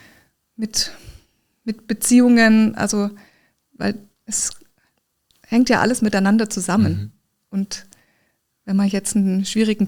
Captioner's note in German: schnauben; räuspern